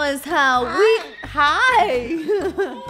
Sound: bird caws; laughs

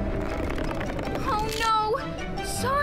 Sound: rope stretching

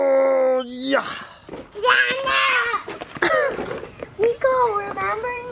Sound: children making noise

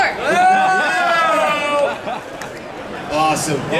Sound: male announcer cheering

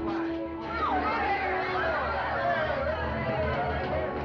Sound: excited Chattering

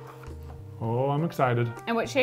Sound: tools clatter

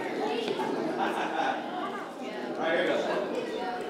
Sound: chuckles

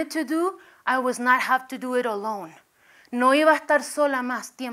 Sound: spanish

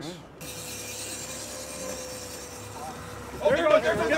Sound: reel spinning

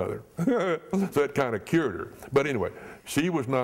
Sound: chuckle

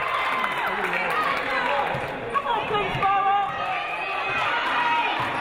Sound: audience applauding; audience cheering

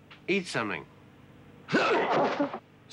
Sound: man grunts

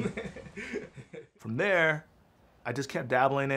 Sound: laughs

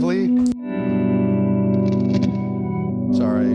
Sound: reverb echo

